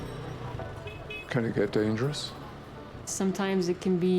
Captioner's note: voiceover